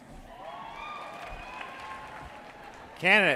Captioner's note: audience cheering and applauding